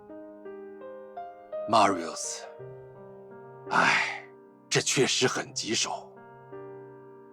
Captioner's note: sighs